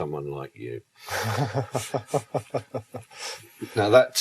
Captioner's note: host laughs